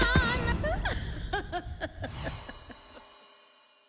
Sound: M'Dear laughs

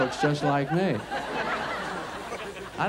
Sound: audience laughs

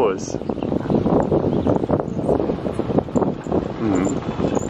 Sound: wind blowing

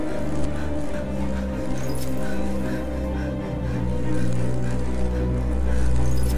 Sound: heavy breaths

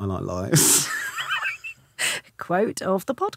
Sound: Romesh laughing

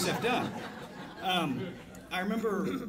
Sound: audience laughs

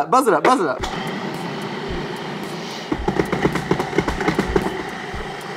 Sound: food processor whirs

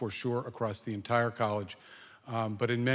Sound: none

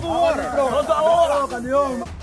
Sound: locals speaking Portuguese

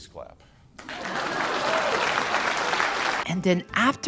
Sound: forced Clapping

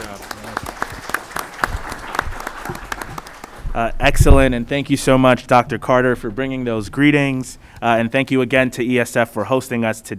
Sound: applause

